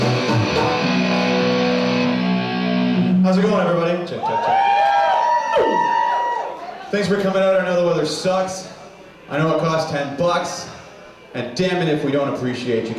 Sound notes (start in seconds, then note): 0.0 upbeat music; 4.1 audience cheers